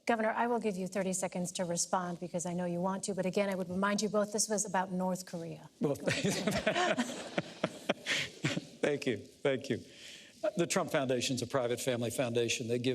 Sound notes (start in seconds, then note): 6.0 laughter